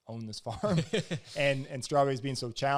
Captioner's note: both laugh